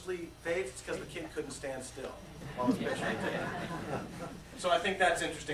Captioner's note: laughter